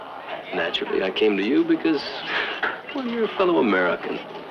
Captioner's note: chuckles